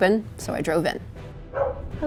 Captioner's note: dog barking